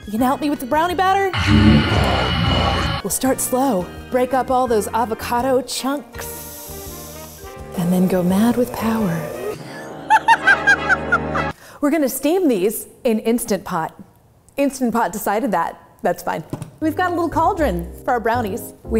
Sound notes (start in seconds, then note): 1.4 demonic muttering; 10.0 laughs maniacally